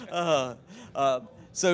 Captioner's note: laughing